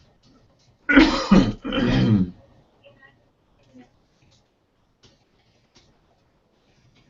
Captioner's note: cough